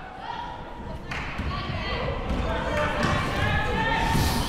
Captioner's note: crowd murmuring